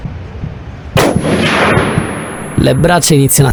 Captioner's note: gunshot